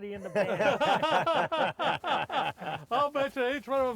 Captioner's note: all laugh